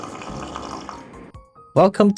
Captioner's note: sluuuuuuurrrppppp